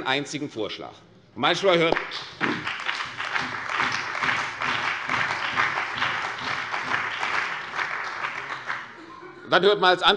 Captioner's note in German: Beifall bei der CDU und dem BÜNDNIS 90/DIE GRÜNEN